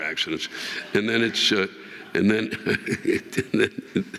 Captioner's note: audience laughing